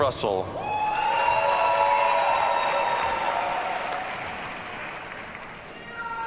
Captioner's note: audience cheers and applauds